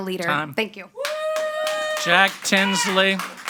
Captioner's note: audience applauding and cheering